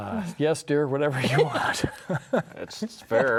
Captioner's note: laughs